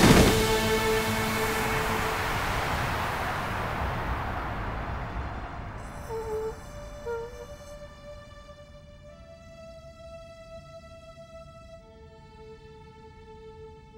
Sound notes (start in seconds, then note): 5.9 whimpers meekly